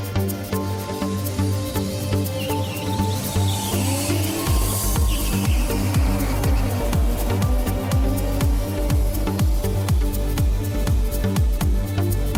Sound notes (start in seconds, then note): 0.0 suspenseful music; 2.7 tires screech